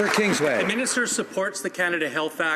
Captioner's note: some Applause